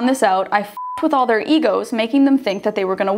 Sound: beep

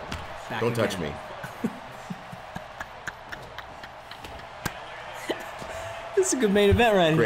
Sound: laugh

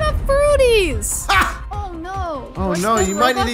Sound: DJ laughing

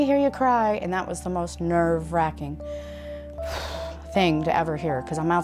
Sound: exhales

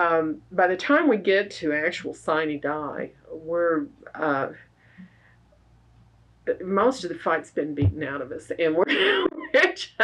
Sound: laughs

